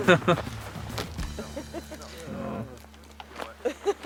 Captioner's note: laughter